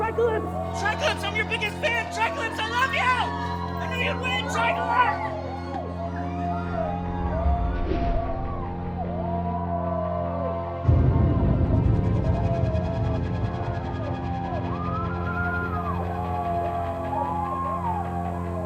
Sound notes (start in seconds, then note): 6.2 crowd cheering; 6.2 dramatic orchestral music